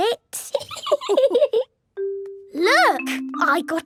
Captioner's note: laughing